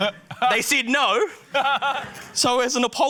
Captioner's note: guy laughs